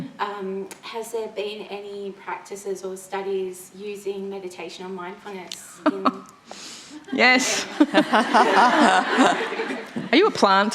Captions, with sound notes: >> Hmm. >> Has there been any practices or studies using meditation or mindfulness >> [laughing] >> Yes. [ Laughter ] Are you a plant?